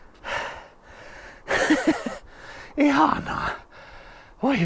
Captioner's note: laughing